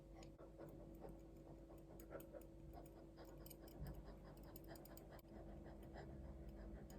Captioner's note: sniffing